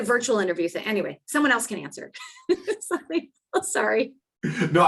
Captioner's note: laughing